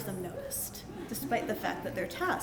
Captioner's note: laughter